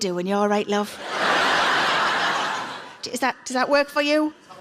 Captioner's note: audience laughs